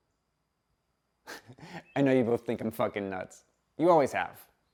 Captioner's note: chuckles